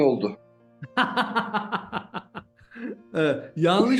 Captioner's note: laugh